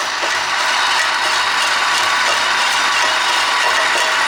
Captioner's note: motors running